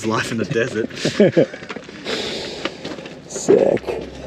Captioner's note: chuckling